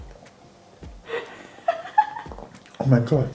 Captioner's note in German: lacht